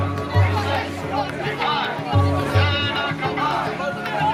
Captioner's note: crowd chanting